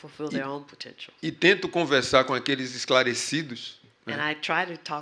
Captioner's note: speaking portuguese